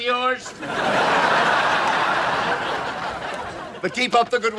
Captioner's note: audience laughs